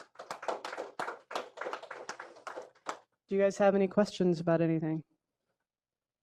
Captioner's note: applause